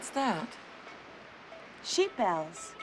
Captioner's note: bells clanging